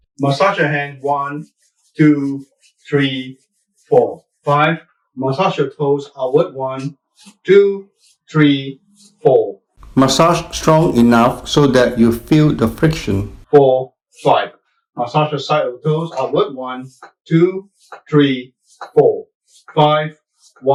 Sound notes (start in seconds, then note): 10.0 voiceover